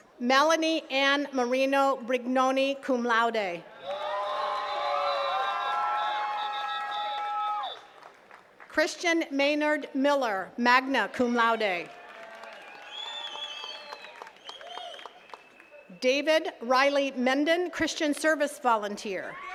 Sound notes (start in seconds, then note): 3.7 attendees cheering and clapping; 11.8 attendees cheering and clapping